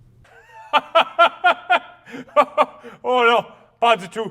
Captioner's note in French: Grand rire